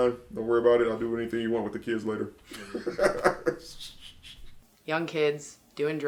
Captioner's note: laughs